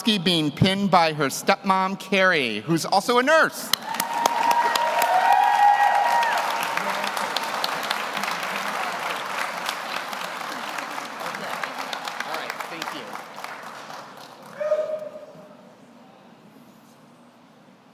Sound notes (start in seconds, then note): 3.7 audience cheers; 5.1 audience applauds